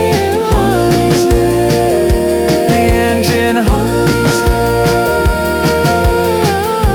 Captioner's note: the engine hums